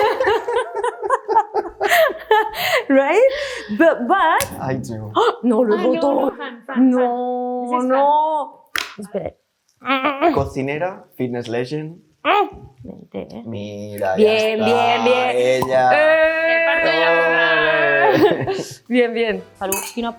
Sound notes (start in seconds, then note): 0.0 all laugh; 4.4 cork snaps; 5.6 producer 2 speaks in Spanish; 5.6 speaks in Spanish; 10.0 grunts; 10.0 producer 1 speaks in Spanish; 13.4 speaks in Spanish; 15.9 cheers; 16.4 producer 2 speaks in Spanish; 19.0 speaks in Spanish